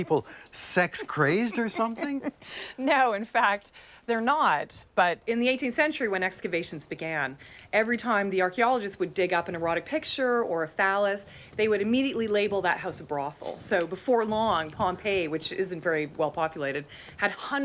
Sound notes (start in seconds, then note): 0.9 laughs